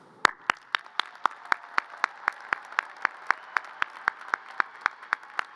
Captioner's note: audience cheers and applause